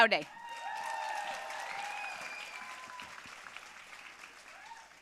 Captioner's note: audience cheering and applauding